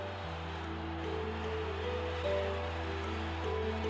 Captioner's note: crowd cheering